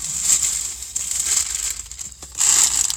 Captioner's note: unspecified crinkling